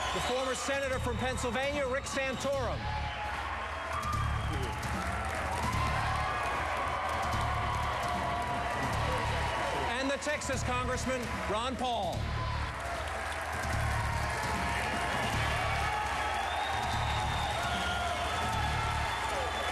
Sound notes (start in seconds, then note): 0.0 applause; 6.9 applause; 13.3 applause